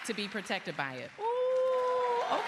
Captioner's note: cheers and applause